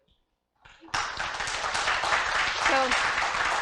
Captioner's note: applause